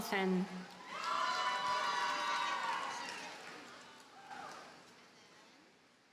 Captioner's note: audience cheers and applauds